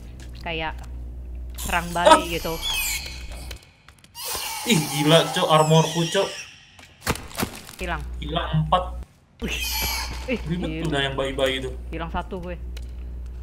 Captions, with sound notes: like - sabotage - (scream) shit my armor - gone? - 4 of them - those babies so annoying - I just lost one